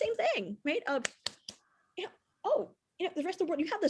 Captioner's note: claps